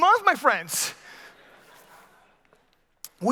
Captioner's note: scattered laughter